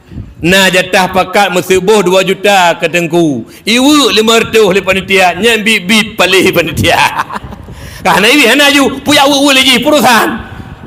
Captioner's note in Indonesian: tertawa